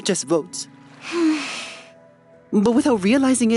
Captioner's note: sighs